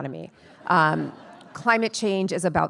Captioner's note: attendees laughing